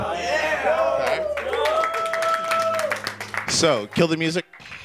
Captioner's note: audience applauding